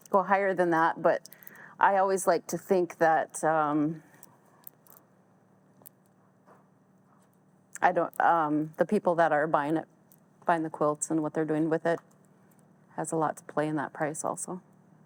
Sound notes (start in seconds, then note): none